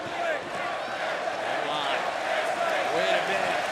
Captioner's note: crowd chatter; crowd cheering